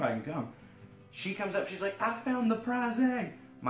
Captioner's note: none